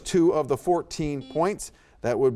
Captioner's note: buzzer beeps